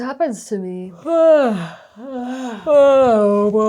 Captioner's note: yawning sounds